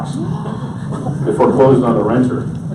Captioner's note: audience gasps